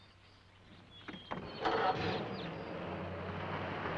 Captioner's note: engine starts